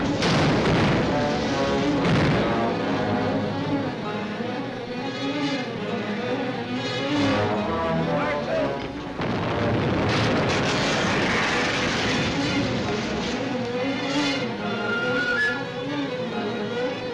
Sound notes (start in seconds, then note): 5.4 men shouting